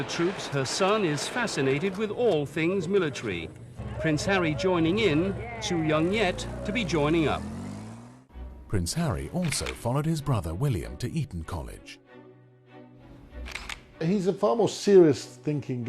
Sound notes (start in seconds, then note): 7.9 voiceover